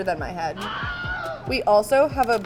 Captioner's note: voice screams